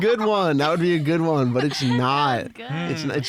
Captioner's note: laughing; laughs